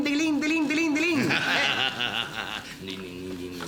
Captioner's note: Root laughing